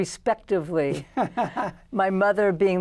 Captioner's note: laughter